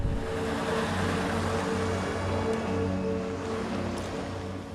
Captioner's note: truck engine roaring